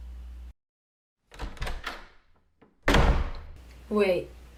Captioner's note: door close